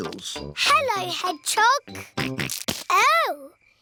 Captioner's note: snorts